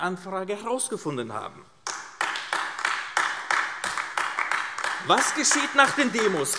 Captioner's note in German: Beifall AfD